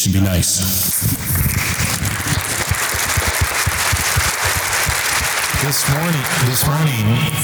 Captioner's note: audience applause